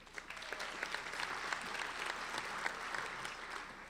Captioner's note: applauding